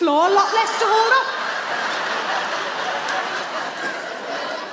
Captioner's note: audience laughs